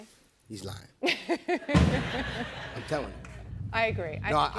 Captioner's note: laughs